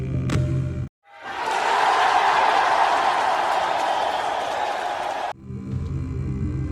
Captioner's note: applause